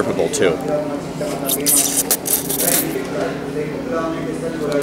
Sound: slurps noodles

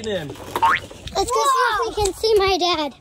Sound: boink sound

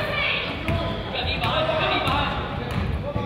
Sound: none

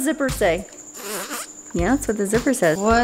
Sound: blows raspberry

